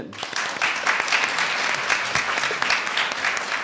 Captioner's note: audience applauds